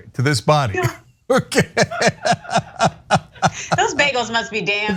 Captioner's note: laugh